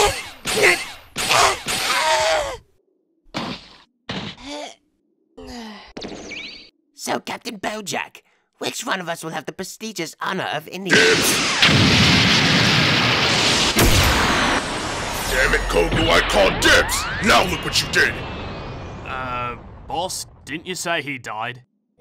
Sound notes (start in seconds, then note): 4.5 GOHAN groans; 5.4 GOHAN sighs